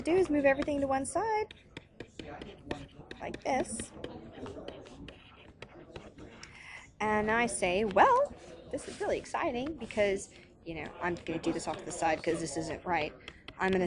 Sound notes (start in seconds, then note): 3.0 tapping